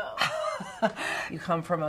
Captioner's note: laughs